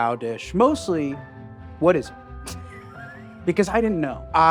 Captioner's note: laughing